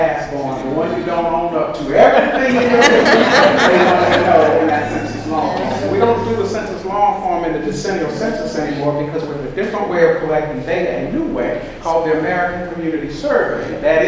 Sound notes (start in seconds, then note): 2.0 audience laughs